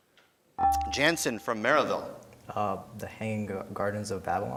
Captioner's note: beeping